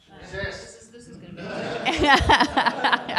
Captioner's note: laughter